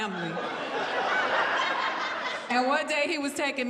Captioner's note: audience laughs